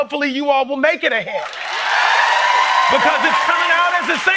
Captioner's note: applause